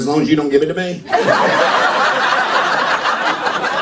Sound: laughter

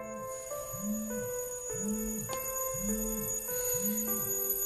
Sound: alarm sound

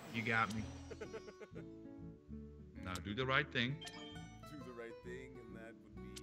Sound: laugh

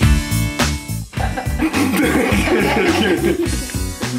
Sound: upbeat music; laughing

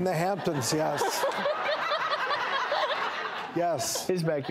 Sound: audience laughs

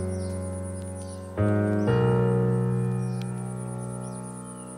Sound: serene piano music; birds chirping

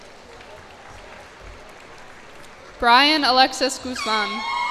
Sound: cheers and applause

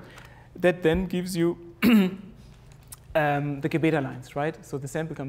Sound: cough

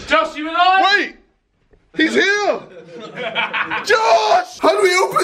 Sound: laughing

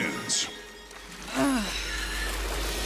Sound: moaning

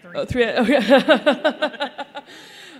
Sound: laugher

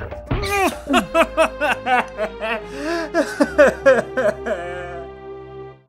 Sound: anger; cries

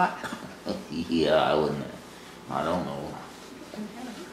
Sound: laughs

